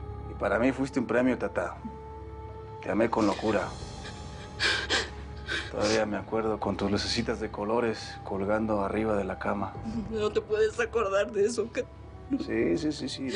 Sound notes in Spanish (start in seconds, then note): 3.1 Sollozos